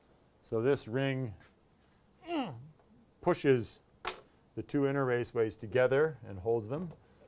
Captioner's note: grunts